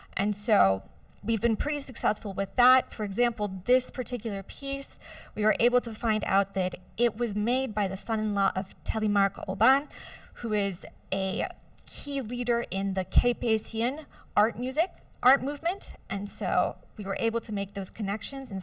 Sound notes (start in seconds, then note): 12.9 non-english